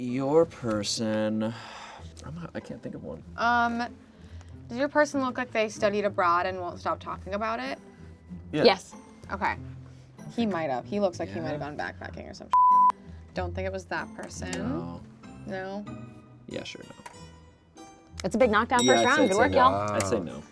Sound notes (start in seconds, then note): 12.5 beep; 18.8 bell clicking sound